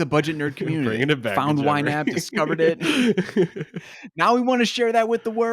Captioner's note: laughs